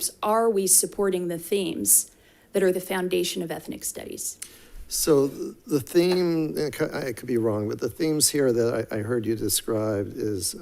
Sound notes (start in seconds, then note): none